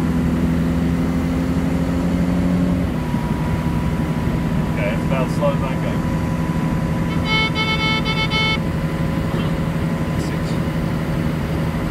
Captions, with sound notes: Okay. That's about as slow as I can go. *Doot Doot Doot Doot Doot*